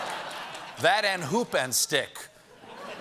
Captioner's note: laughter